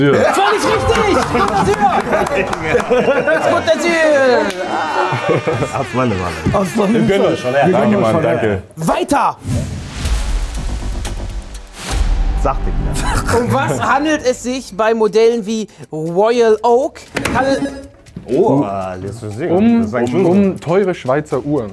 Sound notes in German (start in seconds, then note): 2.0 Lachen; 4.9 Hupen; 9.4 Spannungsvolle Klänge